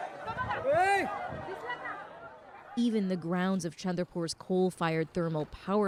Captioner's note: speaking Foreign Language